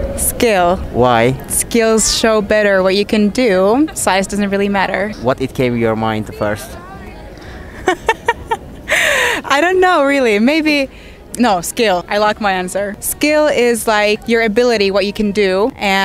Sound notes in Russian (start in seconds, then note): 7.5 смеется